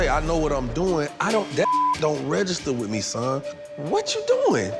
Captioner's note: beeping